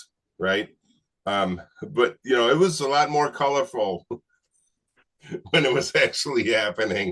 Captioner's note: chuckling